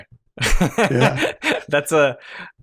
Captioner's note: laughter